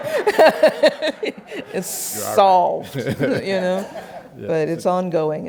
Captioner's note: laughs